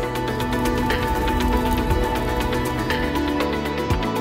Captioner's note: fire roaring